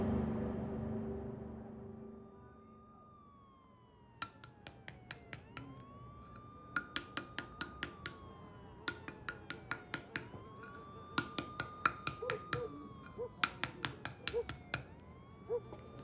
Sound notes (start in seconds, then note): 2.5 siren wailing; 4.2 knife tapping; 12.2 dog barking